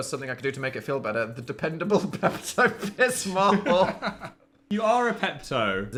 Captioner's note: laughing